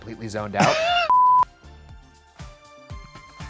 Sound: screen beeping; soft upbeat music

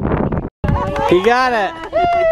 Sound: cheering

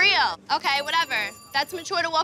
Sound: phone ringing

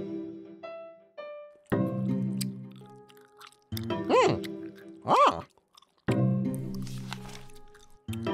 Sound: chewing food

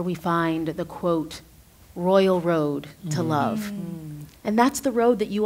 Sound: others agreeing

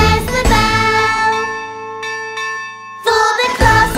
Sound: bell ringing

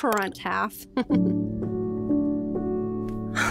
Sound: laughter

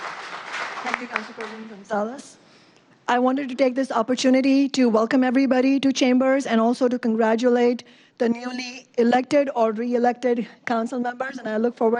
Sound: applause

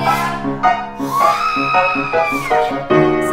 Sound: screeches

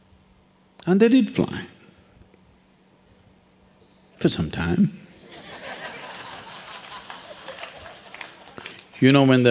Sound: laughter

